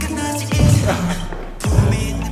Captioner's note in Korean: 후우